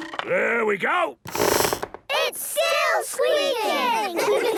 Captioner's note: squeaks